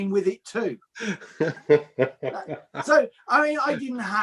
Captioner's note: chuckles